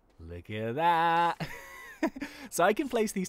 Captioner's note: laughs